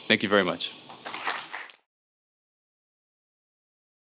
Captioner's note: audience clapping